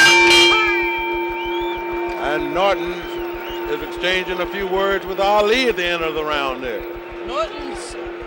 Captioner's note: bell sounds